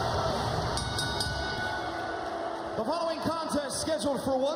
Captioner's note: bell ringing